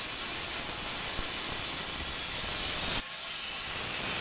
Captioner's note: saw whirring